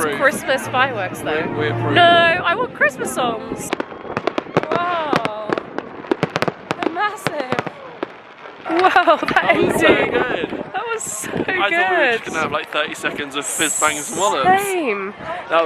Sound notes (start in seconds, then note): 3.4 fireworks pop; 3.4 people cheer